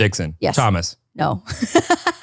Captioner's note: laughs